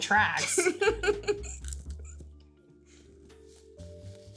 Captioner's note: laughing